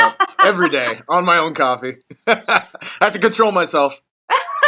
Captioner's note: laugh